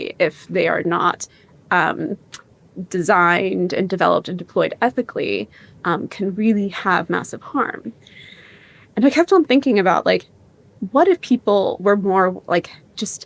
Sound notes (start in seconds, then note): none